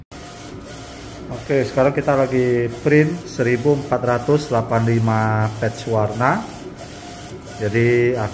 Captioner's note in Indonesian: suara mesin printer